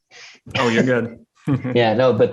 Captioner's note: laughs